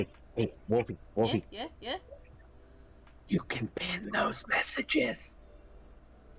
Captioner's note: whispers